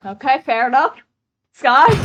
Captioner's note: chuckles™